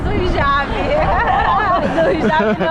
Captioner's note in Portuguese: risos